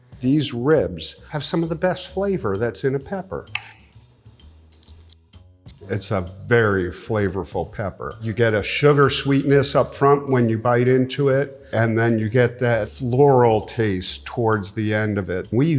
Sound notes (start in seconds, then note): 3.7 knife hits cutting board; 5.1 crunches pepper